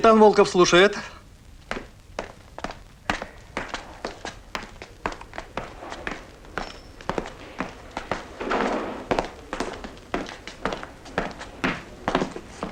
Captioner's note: steps